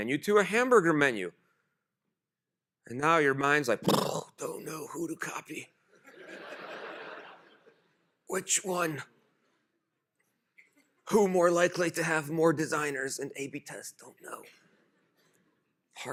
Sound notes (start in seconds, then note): 3.8 groans; 6.0 laughter